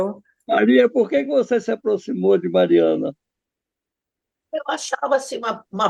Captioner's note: director speaks through the computer